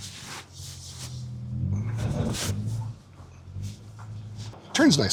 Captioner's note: engine whirring